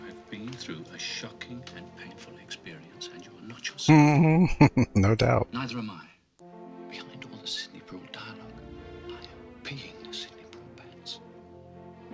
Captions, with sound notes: Mm-hmm. No doubt. [Chuckling]